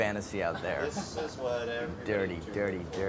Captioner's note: crew member laughs